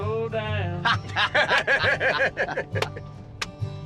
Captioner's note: laughing